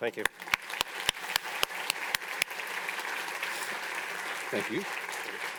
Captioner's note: audience applauding